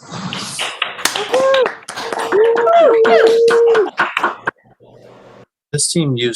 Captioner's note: applause